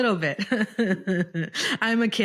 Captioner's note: laughing